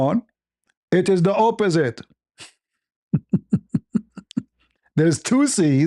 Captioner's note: ketawa